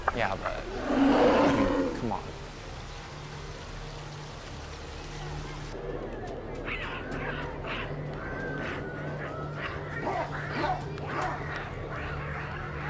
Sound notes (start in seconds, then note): 2.8 tense droning; 6.6 monkeys screeching and barking